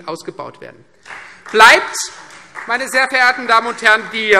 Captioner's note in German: Beifall Freie Demokraten